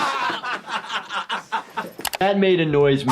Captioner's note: Jackass crew laughs